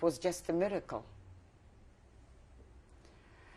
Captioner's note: pauses for 7 seconds